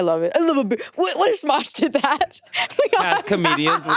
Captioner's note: chuckles